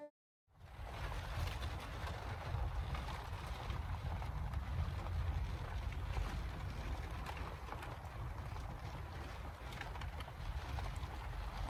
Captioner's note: sounds of steady rain on the van roof, and some wind noise